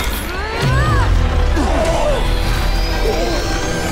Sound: superhero grunts

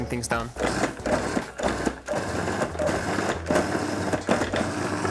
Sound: processor churning

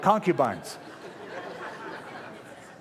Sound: laughter

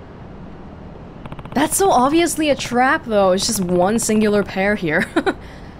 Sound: chuckles

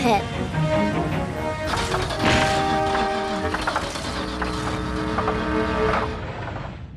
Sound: car rumbling

